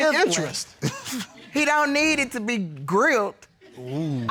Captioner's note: chuckles